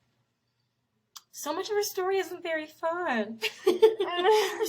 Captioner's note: laughs